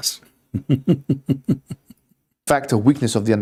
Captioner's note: Ketawa